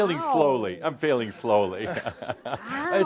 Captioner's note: they chuckle